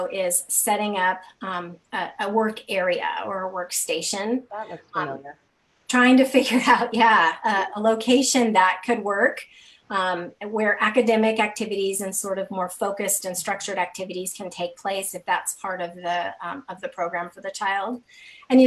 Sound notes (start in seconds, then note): 4.6 laughing